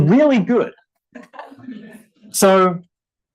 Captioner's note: audience laughing